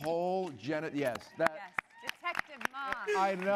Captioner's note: applause